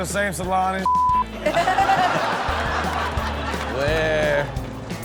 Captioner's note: beep; all laugh